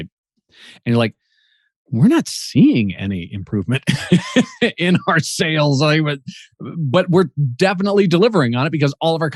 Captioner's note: laughs